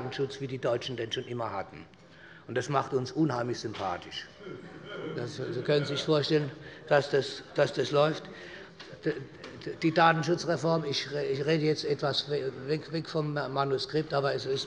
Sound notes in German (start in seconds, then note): 4.4 Heiterkeit des Abg